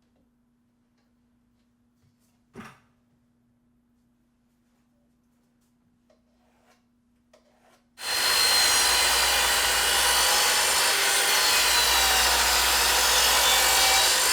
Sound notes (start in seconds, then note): 8.0 equipment whirring